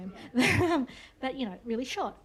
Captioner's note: laughter